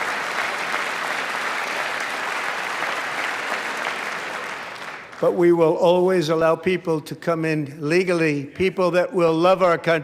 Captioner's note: applause